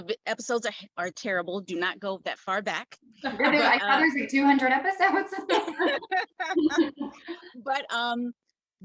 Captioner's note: all laugh